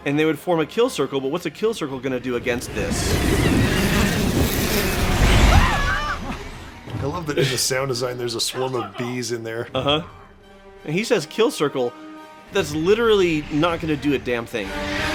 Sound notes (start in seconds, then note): 2.8 buzzing sound of Dracula birds nomming; 5.8 Croods yell